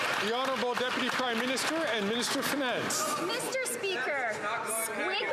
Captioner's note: some Applause